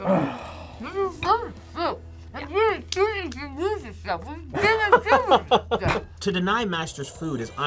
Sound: laughs

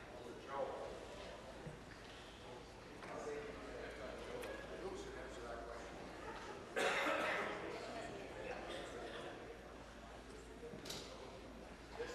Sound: conversation din

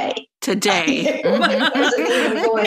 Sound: laughter

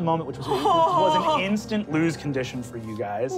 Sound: gasping

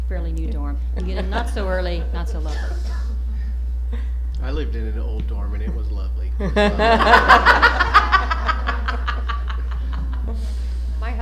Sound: laughter

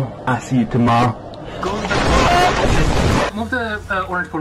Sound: crash!

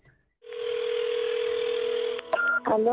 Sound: phone ringing; conversations in foreign language

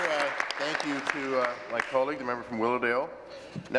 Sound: applause

